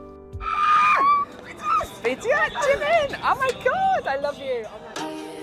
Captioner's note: screams